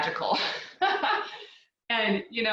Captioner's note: laughs